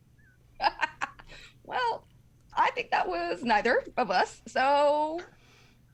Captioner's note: chuckles